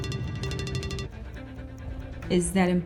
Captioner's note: phone rings